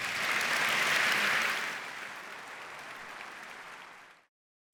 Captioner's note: audience applauds